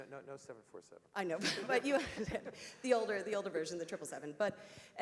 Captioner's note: laugh